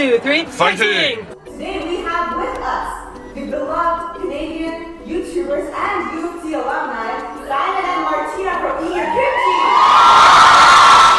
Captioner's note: screaming